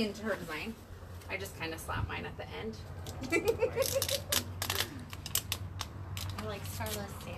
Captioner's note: giggles